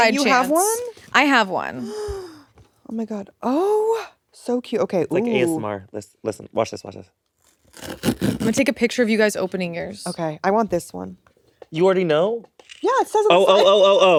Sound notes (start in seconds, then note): 1.8 gasping; 7.4 cardboard ripping